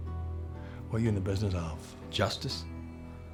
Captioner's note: scottish accent